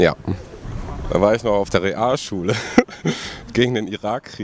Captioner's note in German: lacht